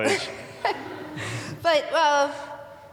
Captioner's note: audience laughing